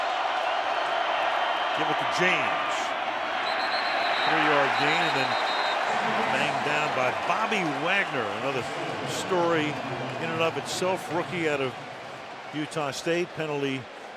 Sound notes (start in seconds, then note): 3.4 whistle